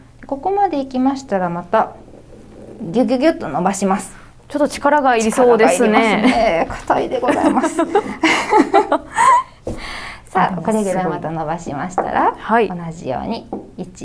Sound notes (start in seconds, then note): 9.4 giggles